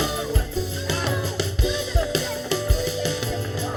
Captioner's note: scuffling and protesting